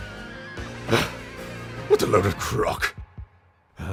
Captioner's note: huff